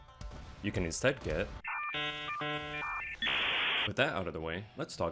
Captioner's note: nostalgic yet harsh robot noises